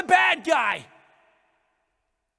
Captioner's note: incriminating silence